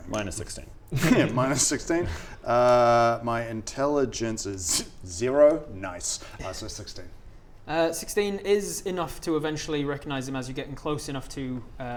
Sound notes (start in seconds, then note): 4.4 scoffs